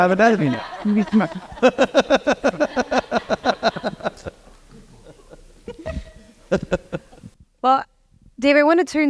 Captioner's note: laugh